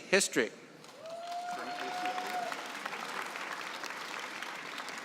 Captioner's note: cheering and applause